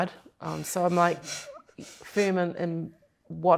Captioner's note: chuckles